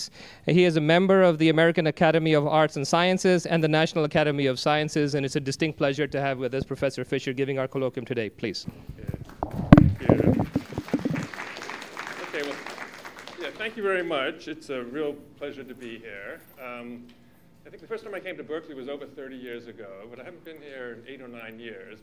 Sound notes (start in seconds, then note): 9.2 applause